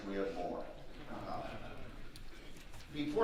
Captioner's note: audience laughing